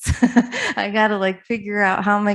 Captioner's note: chuckles